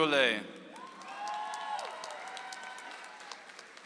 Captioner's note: audience applauds